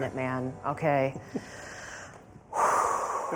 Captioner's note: sighs